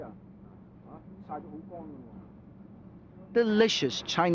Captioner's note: speaking Chinese